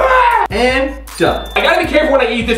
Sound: ping

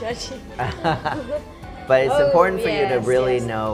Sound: laughing

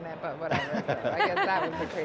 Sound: laughter

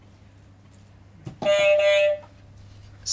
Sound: beep beep

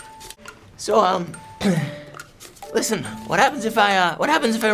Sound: ahem

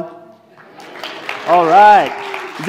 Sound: applause

